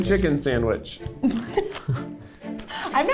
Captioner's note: laughing